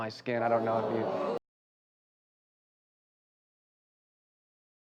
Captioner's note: crowd groans